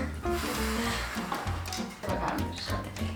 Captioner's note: sigh